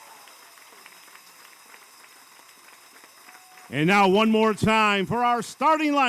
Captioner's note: applause